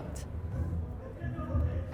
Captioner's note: people chattering